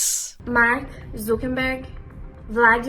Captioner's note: woman speaking Portuguese